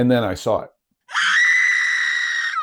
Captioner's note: scream